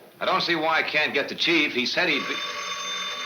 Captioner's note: phone ringing